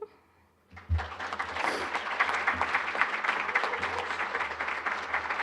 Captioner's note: applause